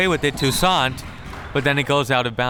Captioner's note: whistle tweeting